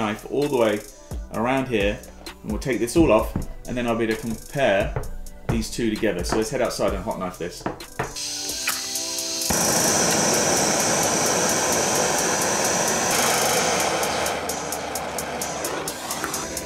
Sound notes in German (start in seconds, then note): 8.1 Gas Zischen, dann bläst